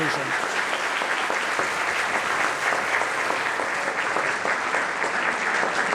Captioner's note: audience applauding